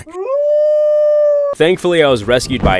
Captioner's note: wolf howling